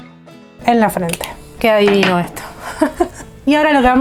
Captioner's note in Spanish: risas